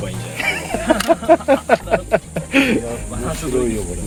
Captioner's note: laughs